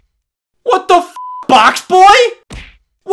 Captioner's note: beep